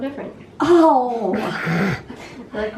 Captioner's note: laughter